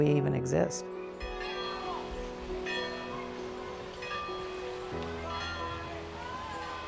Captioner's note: bells dinging; distant shouting